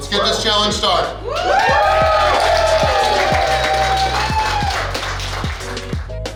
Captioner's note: cheering & Clapping